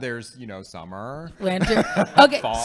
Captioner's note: laughing